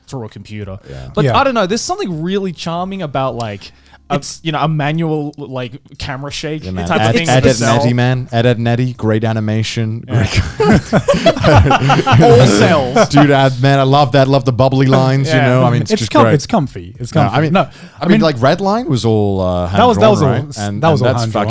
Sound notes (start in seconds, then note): 10.1 laughing